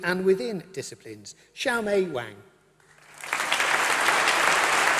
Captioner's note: applause